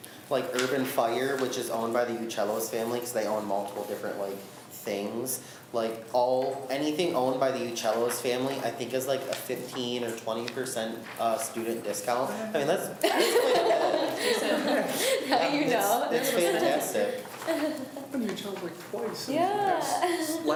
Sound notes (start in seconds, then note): 13.0 laughs